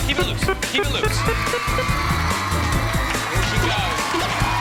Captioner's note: beeping